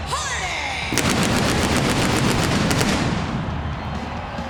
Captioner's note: pyro blasting